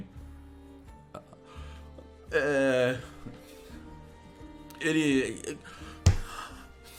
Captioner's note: stuttering